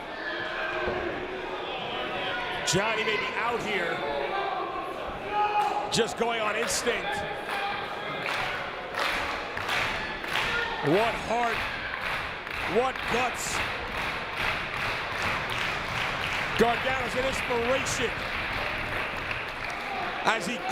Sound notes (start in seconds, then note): 14.2 applause